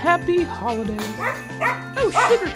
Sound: barking sounds

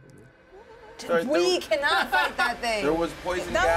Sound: speaker laughs

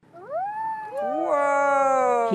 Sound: students whooping

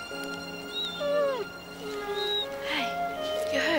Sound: whimpers

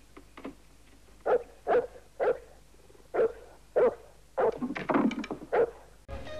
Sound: dog barking

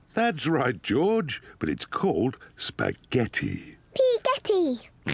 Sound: oinks

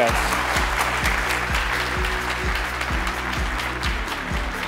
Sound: applause

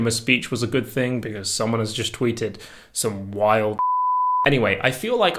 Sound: beep

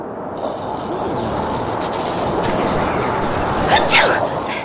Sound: sneezes

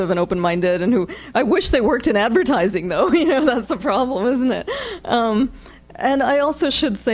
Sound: laughs

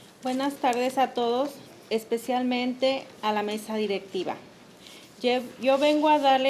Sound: speaking in the foreign language

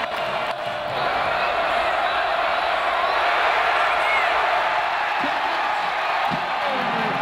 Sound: crowd cheers

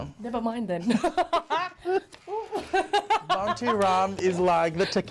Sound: both laughs

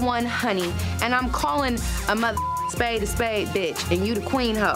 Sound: beep

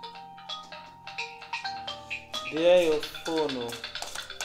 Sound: phone ringing

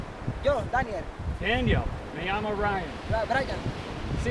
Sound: speaking foreign language

